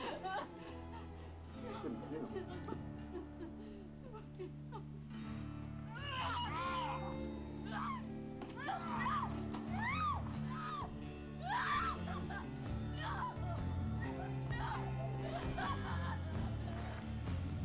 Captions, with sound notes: (speech muffled by gas mask) - No, no, no... (yells) (screams) (screaming) No! No!